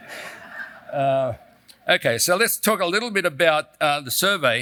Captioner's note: laugh